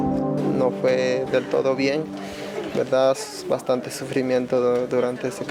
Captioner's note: speaking in foreign language